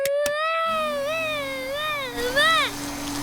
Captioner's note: vacuum cleaner whirring